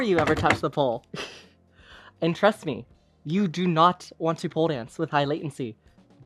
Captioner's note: giggles